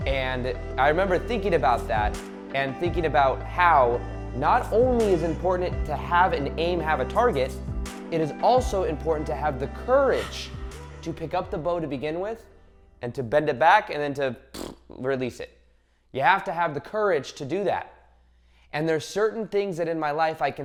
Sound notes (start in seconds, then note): 14.5 buzzes lips